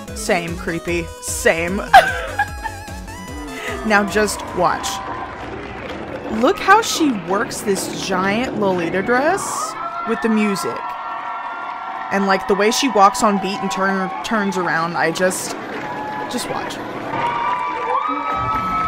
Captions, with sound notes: Same Creep-P, same. *laughs* Now just watch. Look how she works this giant lolita dress with the music, and like the way she walks on beat and turns around I just--just watch.